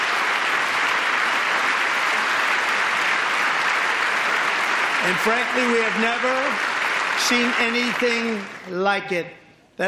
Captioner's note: applause; applause